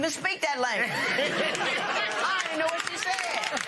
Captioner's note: laughter